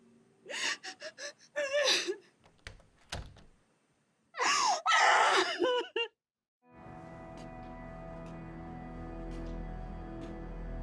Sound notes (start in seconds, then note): 1.5 crying; 2.4 door opening; 4.4 crying; 6.7 soft dramatic music